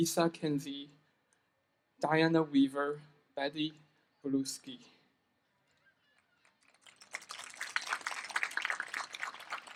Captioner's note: applause